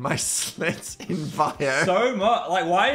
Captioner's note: laughs